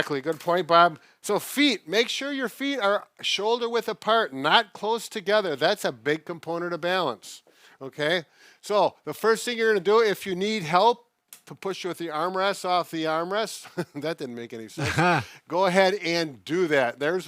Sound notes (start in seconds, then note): 14.7 laughs